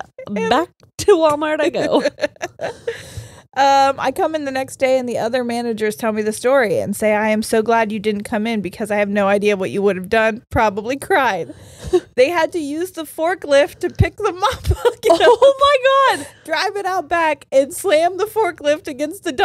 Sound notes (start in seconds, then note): 1.7 laughs